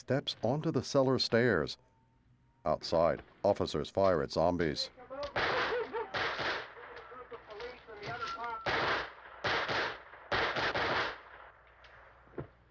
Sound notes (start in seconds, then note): 3.8 men shouting, dogs barking